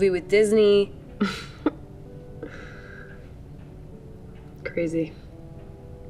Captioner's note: giggles